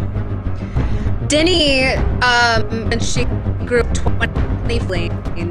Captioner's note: microphone cuts out